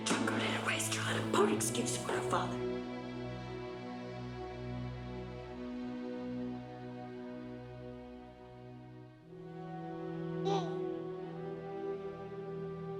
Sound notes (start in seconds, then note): 4.3 soft music; 10.4 baby gurgling